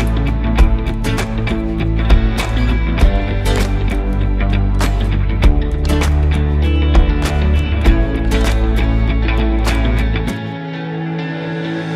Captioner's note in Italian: Applauso